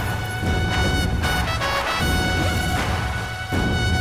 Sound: car brakes

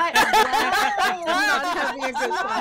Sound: laughter

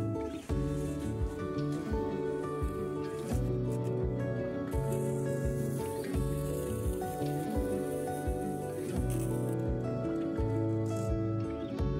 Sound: scraping sounds

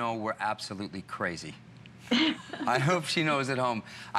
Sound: laughter

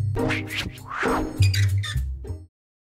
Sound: words swishing and squeaking

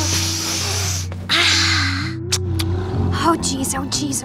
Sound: Princess Bubblegum sighs

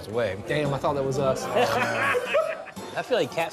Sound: laughing

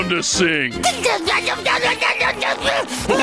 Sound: blabbering, sputtering

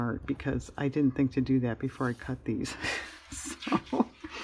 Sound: laughs

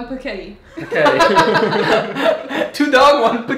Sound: laughing

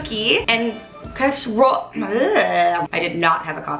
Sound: vocalizes

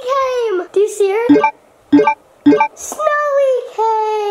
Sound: video game beeps

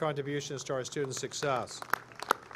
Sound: applause

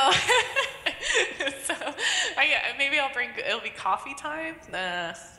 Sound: laughs

